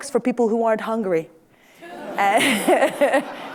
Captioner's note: laughter